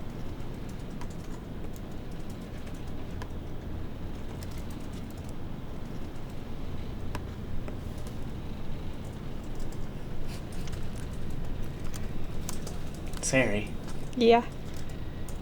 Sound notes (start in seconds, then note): 10.2 chuckles lightly